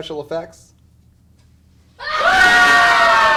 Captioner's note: screaming